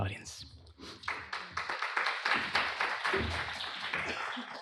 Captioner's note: applause